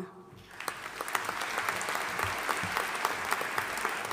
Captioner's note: audience applauding